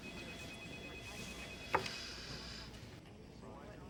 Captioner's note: phones ring